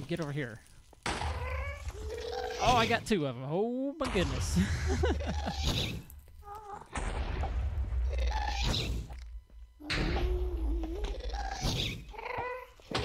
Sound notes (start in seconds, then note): 0.0 explosion; 0.0 ghast shrieks; 2.9 ghast shrieks; 6.9 explosion; 7.3 laughs